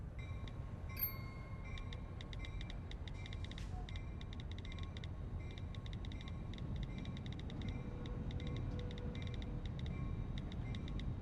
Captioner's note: typing on phone